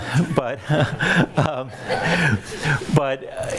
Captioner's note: laughs